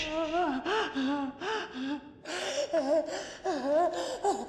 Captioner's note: heavy breathing